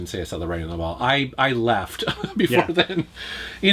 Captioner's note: laughs